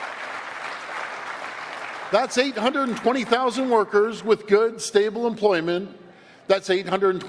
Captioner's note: applause